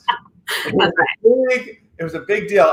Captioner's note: laughs